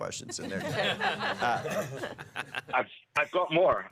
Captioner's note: laughter